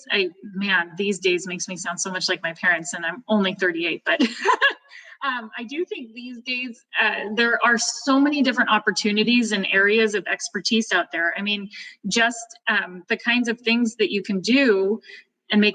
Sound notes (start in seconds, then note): 4.2 chuckles